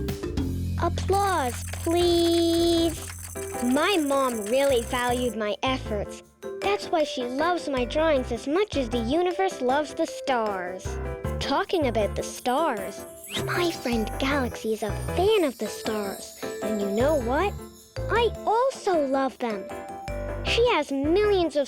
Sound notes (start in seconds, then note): 1.1 rattling; 1.2 clapping